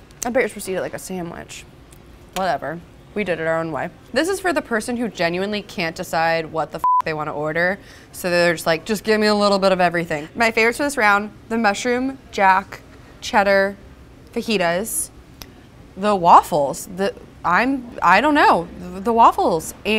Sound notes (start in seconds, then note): 6.8 beep